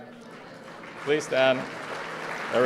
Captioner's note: applause